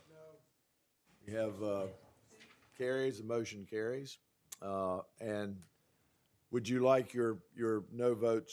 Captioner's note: chorus of ayes